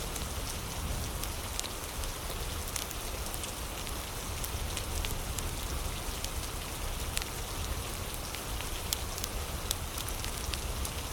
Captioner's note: fire crackling